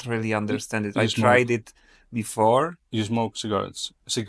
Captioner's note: none